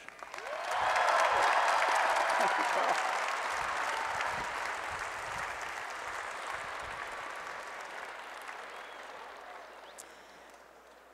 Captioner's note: applause and Cheering